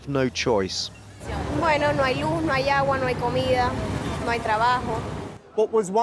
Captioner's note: speaks in foreign language